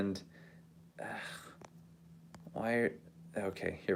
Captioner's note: sigh